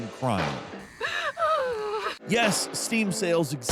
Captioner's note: character wailing